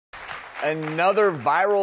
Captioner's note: audience claps